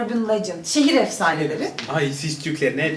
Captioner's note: in Turkish